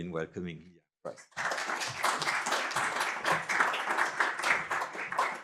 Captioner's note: applause